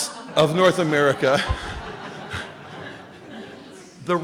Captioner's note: chuckling